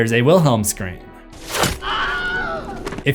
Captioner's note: scream